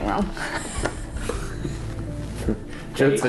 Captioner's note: both laughing